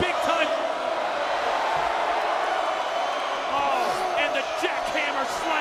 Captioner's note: applause